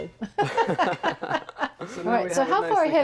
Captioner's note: laughs